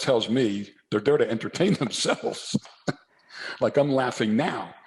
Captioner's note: laughs